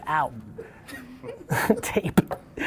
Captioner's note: laughs